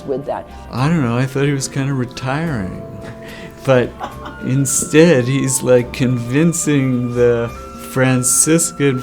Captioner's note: laughter